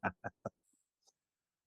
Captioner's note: laughing